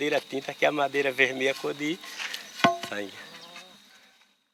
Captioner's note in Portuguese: Som do pau de madeira batendo no chão